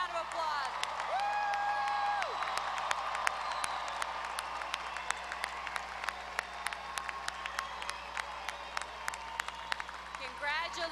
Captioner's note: applause